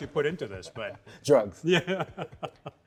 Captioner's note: laughs